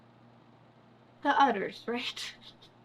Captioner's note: laughs